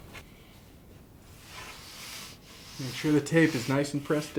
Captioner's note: screeches